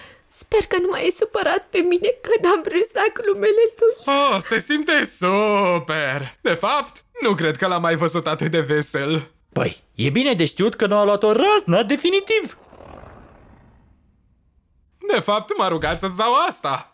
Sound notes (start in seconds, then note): 12.4 Kaufmo growls